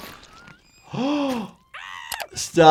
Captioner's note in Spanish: risas grita; el doctor jadea